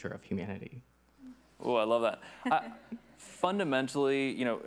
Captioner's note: chuckles